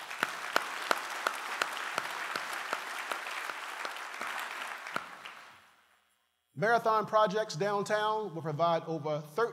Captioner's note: applause